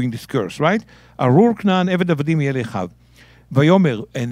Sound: speaking in Hebrew

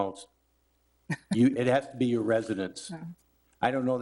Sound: chuckles

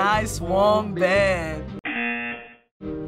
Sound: singing along; buzzer

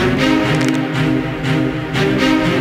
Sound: crack

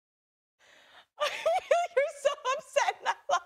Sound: laughs

